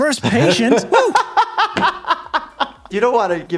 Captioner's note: laughing